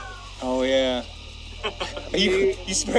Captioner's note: laughs